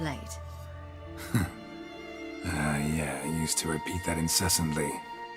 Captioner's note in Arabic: تذمر